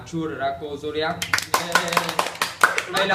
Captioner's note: clap clap